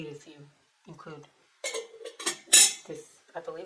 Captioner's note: sound of lid slamming onto sugar bowl